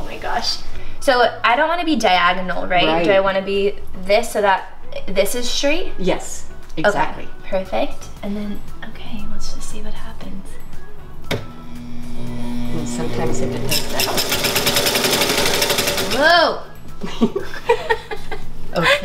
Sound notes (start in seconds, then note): 11.1 machine humming; 17.0 laughing